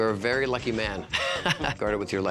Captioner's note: laughs